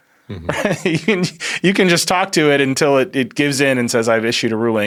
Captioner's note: laughs